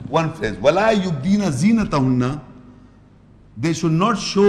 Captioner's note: Arabic